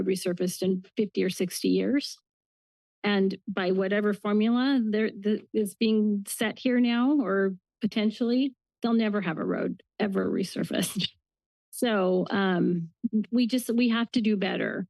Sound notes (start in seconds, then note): 11.1 laughs